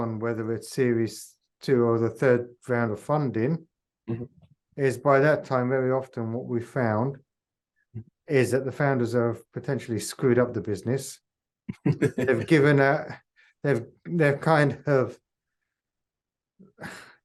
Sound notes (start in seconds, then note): 11.7 chuckles